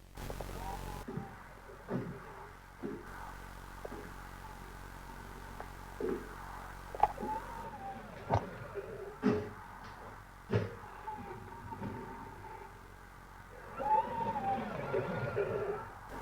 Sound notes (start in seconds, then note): 0.2 NIGHTWING's footsteps; 7.2 strange wheezing sound; 14.2 wheezing continues